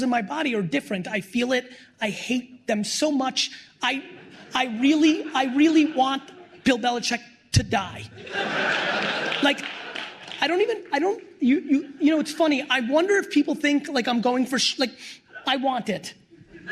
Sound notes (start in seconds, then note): 3.9 laughter; 8.1 laughter